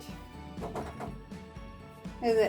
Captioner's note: knocking on the door